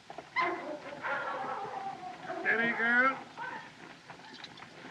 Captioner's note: dogs Barking